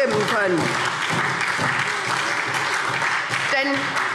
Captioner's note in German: Beifall SPD